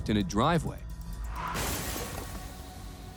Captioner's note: tires screeching; glass shattering